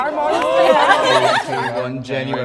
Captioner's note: crows gasps